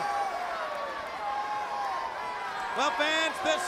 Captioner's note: crowd cheering